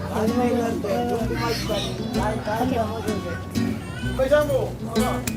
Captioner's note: men speaking in foreign language